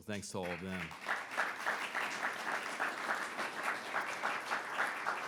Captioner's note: audience applauds